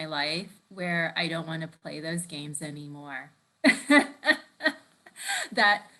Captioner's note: laughs